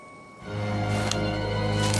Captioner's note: click